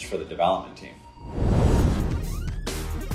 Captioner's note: intense electronic music; fire roaring